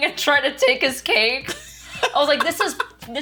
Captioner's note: laughs